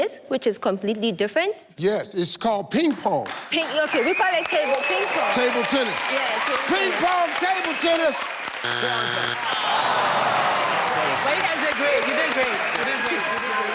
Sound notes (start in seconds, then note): 8.6 error sound; 9.8 audience cheers